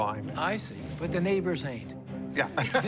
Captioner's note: laughter